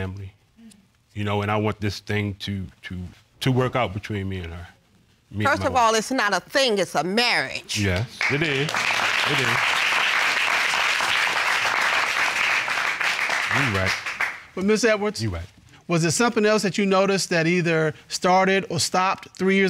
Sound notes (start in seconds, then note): 7.9 audience applauding